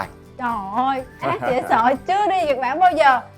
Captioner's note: laugh